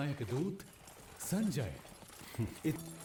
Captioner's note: chuckles